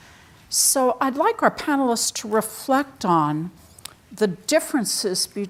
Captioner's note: none